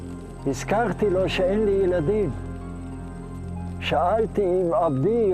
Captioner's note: speaking in Hebrew